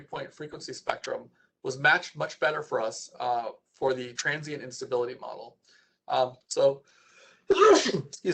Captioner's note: sneezes